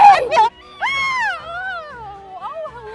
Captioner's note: screams